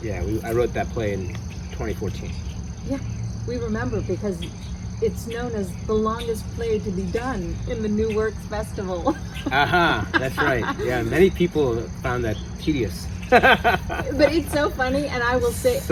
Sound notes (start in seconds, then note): 8.9 laughs; 13.2 laughs